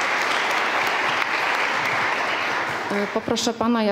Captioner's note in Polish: oklaski